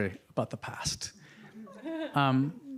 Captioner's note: audience laughing